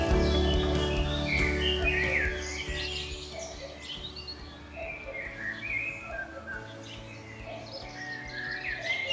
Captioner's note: cuckoo calls